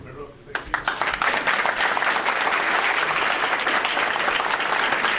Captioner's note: audience applauding